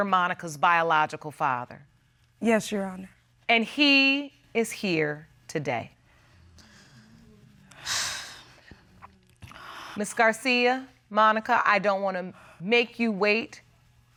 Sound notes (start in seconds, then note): 6.5 sighs